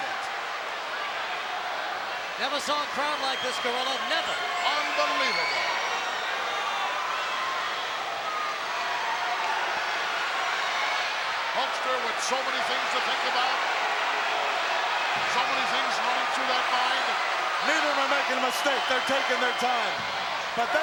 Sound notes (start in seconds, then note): 0.1 crowd yelling; 5.7 crowd yelling